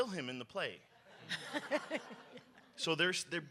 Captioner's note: audience laughs